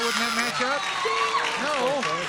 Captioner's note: buzzer